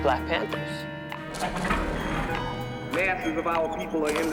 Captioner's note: tape rewinds